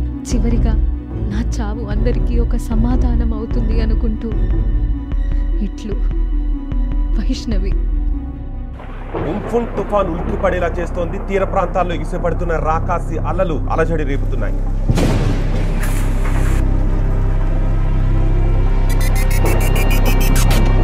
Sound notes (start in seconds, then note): 8.7 thunder; 14.8 thunder